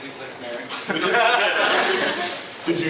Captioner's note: laughter